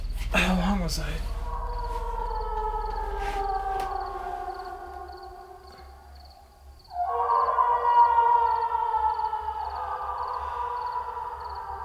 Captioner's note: ghostly woman screaming in distance